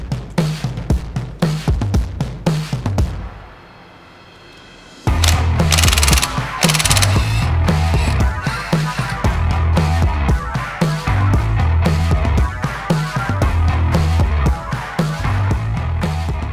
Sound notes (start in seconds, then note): 5.6 tool whirring